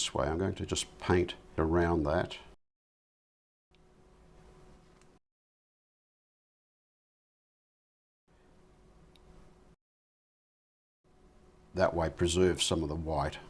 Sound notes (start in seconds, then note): 3.6 silence